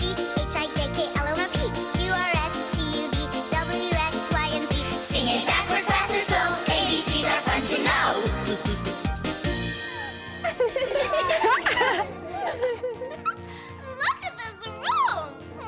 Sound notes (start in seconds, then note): 10.4 everyone laughs